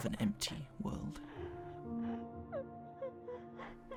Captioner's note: sobbing continues